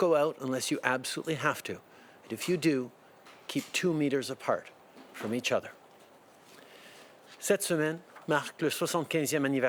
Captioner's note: speaking French